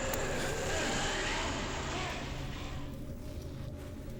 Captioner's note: ominous music begins; vampire roaring